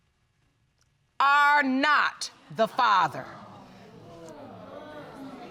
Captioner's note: audience exclaiming sadly